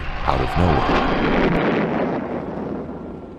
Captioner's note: explosion